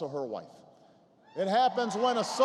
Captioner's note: applause